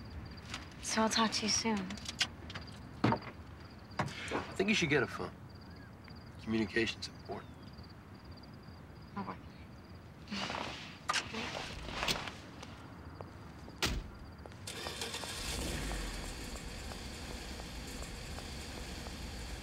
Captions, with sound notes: So, I'll talk to you soon. - I think you should get a phone; communication's important. - I will. Goodnight. (door shutting) (engine starting)